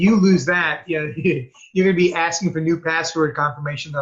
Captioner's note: chuckling